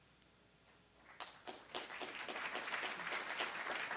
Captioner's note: applause